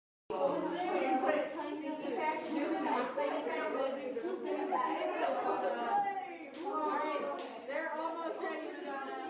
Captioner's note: muffled chatter